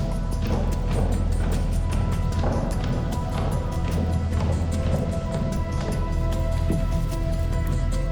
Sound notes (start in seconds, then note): 0.0 tense music continues; 0.1 footsteps thudding